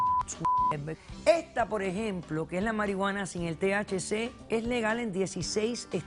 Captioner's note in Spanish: Bip